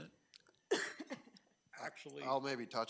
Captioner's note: trustee coughing